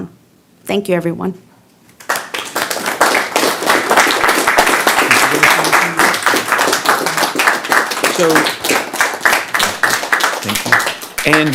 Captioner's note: applause